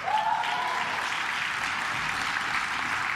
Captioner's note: claps